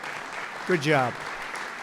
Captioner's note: applause